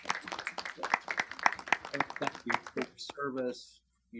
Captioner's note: students applaud